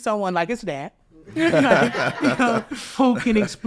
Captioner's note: all laughing